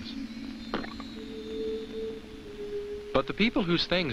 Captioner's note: egg squelches